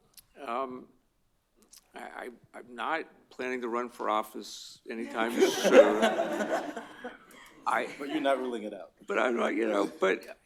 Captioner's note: laughter